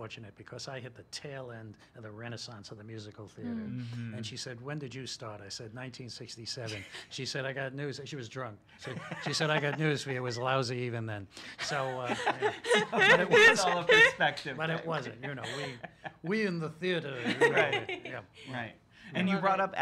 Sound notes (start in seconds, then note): 11.6 laughs